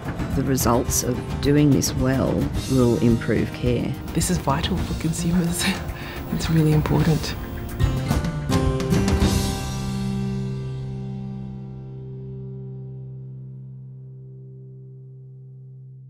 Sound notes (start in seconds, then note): 5.3 laughs; 8.0 upbeat music